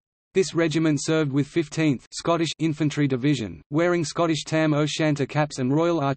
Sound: Scottish

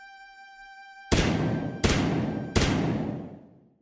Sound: more gunshot noises

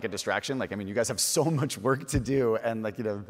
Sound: chuckles

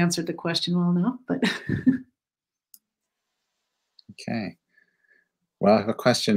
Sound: laughter

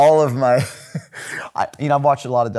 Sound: laughing

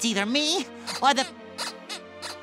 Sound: squeaking

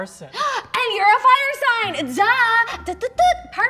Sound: gasps

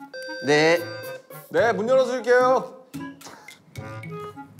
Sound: sounds like a door bell

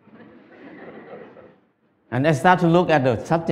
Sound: Smijeh

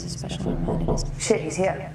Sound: door knocking

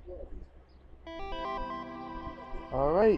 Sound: computer chimes

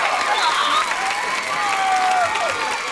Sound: cheering

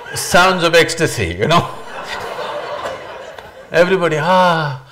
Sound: laughs

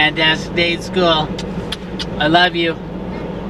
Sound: lips smacking

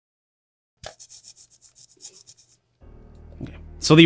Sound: scritching

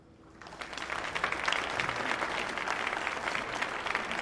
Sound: audience applauding

